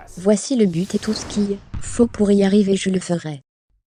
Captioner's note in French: swoosh